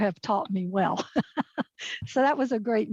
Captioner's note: laughs